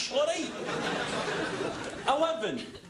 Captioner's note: laughter